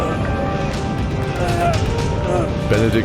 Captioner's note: groaning from the strain of the force to stay conscious